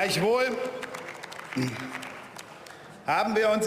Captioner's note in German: Beifall